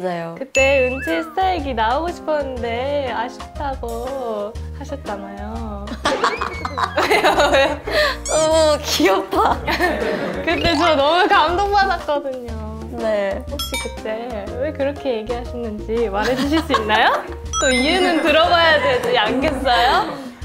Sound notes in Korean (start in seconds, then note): 6.1 빵 터짐